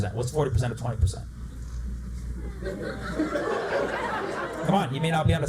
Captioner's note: laughter